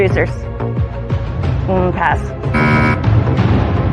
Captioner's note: buzzer sounds